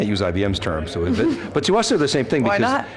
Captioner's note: laughter